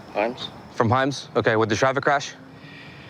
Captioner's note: sigh